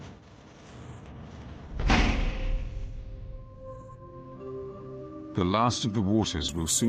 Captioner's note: thunder rumbling; dramatic music